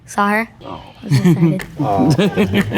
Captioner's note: chuckles; group laughing